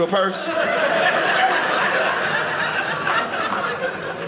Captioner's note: audience laughing